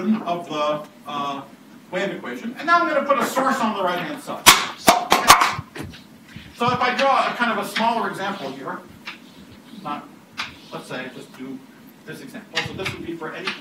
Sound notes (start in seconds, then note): 5.7 clanging